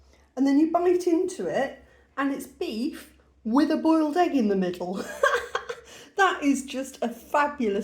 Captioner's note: laughter